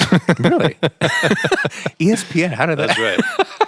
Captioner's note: both laughing